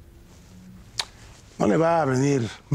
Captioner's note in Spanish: Chasquea la lengua